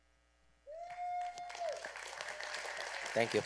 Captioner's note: applause